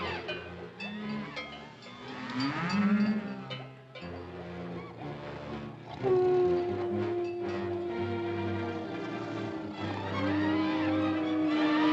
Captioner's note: elephants trumpet; suspenseful music; cacophony of animal noises